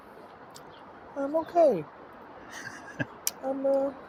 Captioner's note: laughter